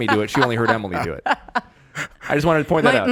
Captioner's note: Emily laughing